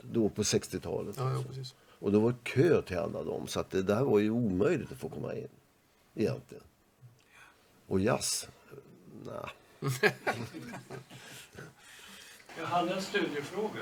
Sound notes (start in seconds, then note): 9.8 laugh